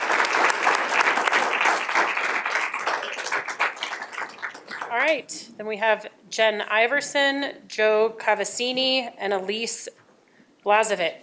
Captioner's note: applause